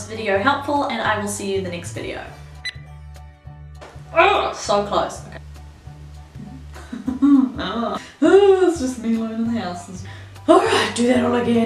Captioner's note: beep